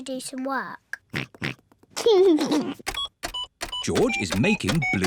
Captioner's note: computer beeping; oinks and giggles